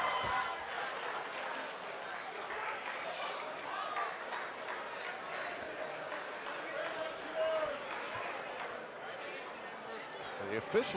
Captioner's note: cheers and applause